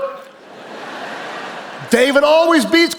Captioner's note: audience laughing